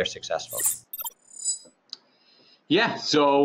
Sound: electronic chimes

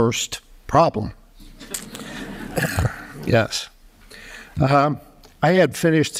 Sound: laughter

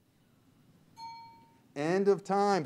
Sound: bell pings

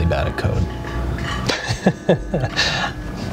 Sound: laughing

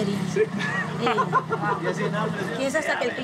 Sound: laughs

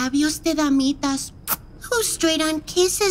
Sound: kiss

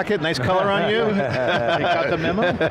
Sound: all laughing

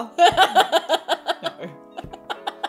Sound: laughing

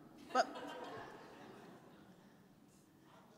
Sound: laughing

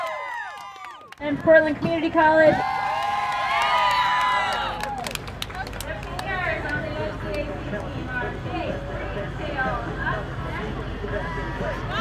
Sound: cheers; cheers

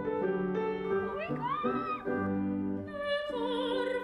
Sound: squeals

